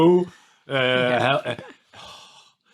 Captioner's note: sighs